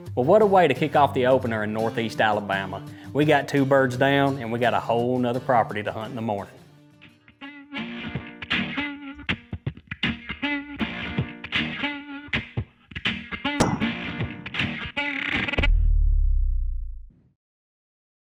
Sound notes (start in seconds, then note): 7.5 upbeat music; 13.7 shotgun fires